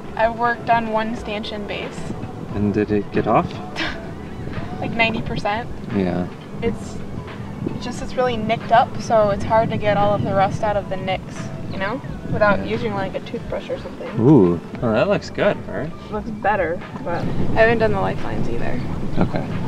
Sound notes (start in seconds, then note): 3.7 chuckles